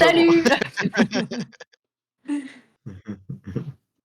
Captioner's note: laughter